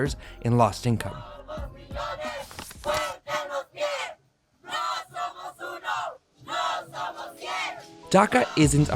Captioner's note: crowd chanting